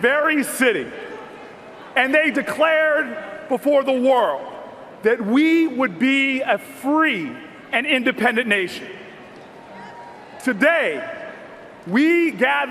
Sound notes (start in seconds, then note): none